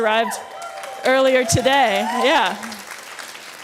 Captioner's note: audience cheering